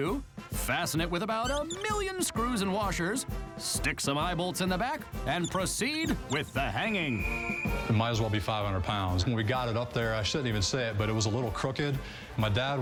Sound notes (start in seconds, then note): 5.2 whistle blows